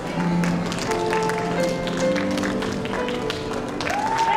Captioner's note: applause